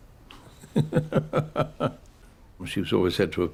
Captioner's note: chuckles